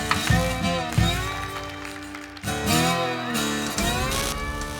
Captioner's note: audience applauding